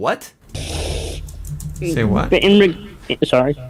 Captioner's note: sniffling